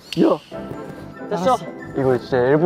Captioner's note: exclamations of amazement